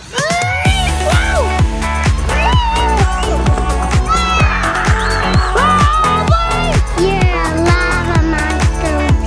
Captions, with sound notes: - Weee! - Whoa! (upbeat music) (children shouting) - You're a lava monster.